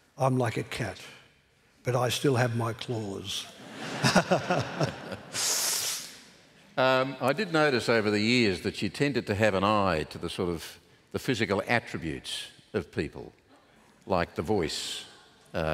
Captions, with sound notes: I'm like a cat, but I still have my claws." [ Laughter ] >> I did notice, over the years, that you tended to have an eye to the, sort of, the physical attributes of people, like the voice.